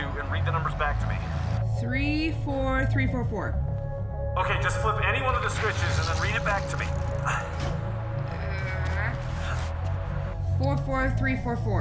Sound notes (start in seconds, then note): 8.1 metal clang; 8.1 grunting